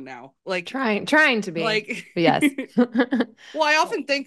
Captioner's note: chuckles